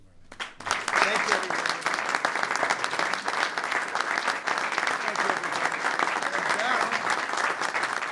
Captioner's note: applause